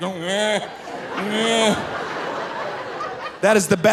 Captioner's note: imitating moose crying